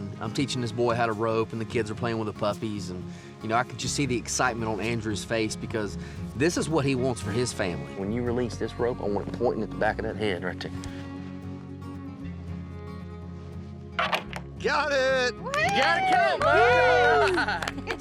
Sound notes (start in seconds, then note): 13.4 rope clinks; 15.3 everyone cheering